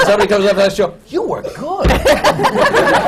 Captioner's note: laughter